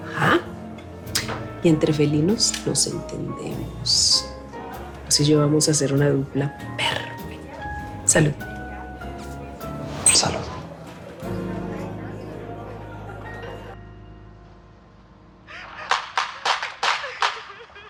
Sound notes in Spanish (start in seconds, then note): 11.0 Disparos; 11.0 Sollozos